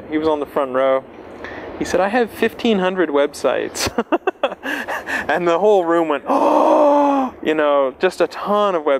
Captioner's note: laughs